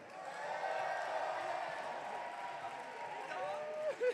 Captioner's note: audience cheering